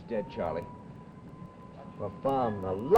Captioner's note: sirens wailing